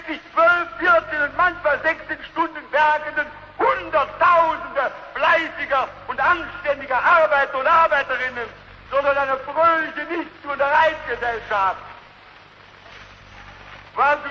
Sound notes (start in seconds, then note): none